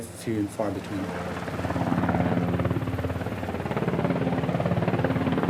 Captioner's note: blades whirring